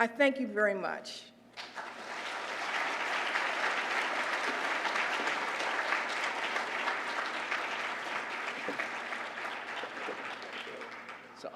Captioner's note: applause